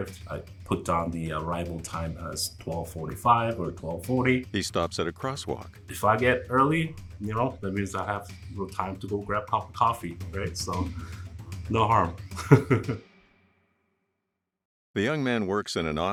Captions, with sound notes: I put down the arrival time as 12:45 or 12:40. If I get early, you know, that means I have time to go grab a cup of coffee, right? So, no harm. [Laughing] [Intense instrumental music stopping abruptly]